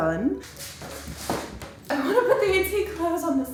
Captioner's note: feet scraping